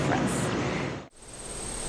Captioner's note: crickets chirping; birds chirping